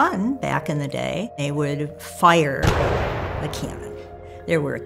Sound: explosion

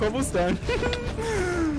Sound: giggling

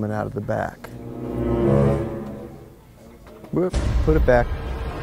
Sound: suspenseful blast; suspenseful music

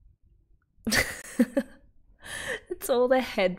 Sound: laughs

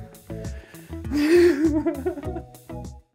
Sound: laughter

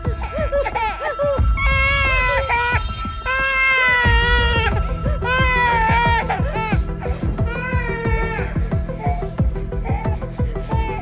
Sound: baby crying

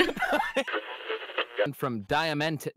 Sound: radio tuning noises

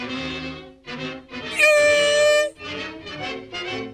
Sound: imitates piercing note

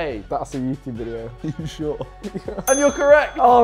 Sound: laughing

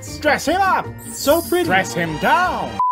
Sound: sparkles

